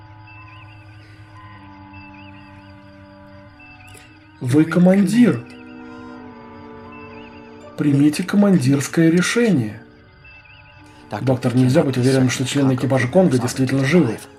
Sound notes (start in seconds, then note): 4.2 quietly